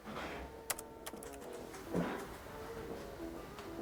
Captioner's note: keys clicking